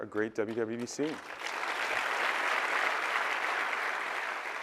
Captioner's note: applause